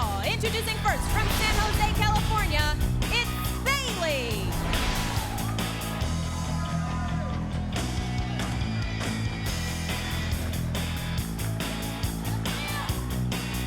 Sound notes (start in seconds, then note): 4.7 crowd cheering; 4.7 upbeat pop music continues; 12.0 upbeat pop music continues